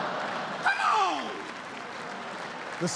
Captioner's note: laughter